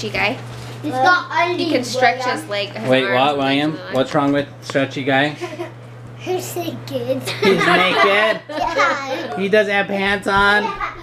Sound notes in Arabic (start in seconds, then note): 0.0 طفل يثرثر; 5.6 يضحك; 6.2 طفل يثرثر; 10.6 يضحك